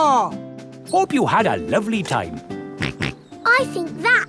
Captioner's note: snorts